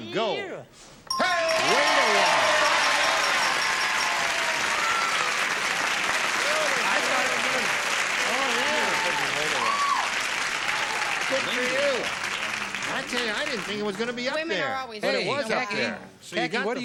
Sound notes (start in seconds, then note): 4.8 ding